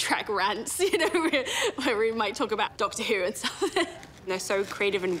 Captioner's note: laughs